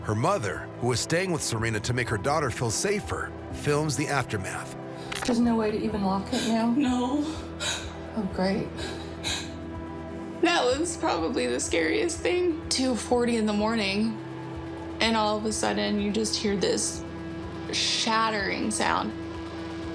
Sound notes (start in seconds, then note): 8.6 crying